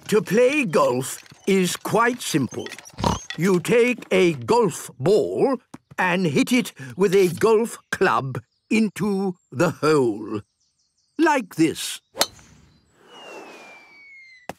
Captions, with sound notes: - To play golf is quite simple. (snort) You take a golf ball and hit it with a golf club... into the hole. Like this.